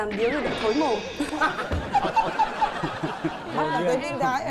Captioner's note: laughing